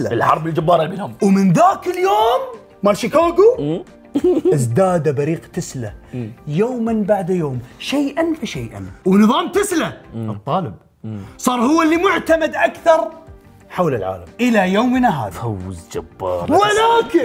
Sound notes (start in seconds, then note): 4.1 giggles